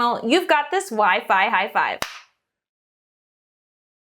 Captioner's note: claps